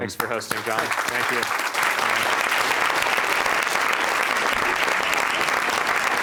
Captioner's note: applause